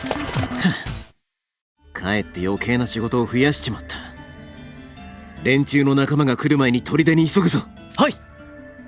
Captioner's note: sigh